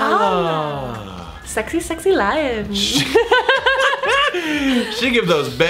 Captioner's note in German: kichert